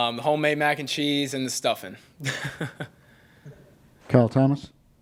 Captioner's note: chuckles